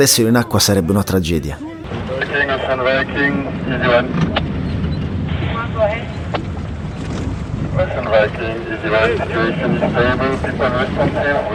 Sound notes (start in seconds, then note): 5.8 voice on radio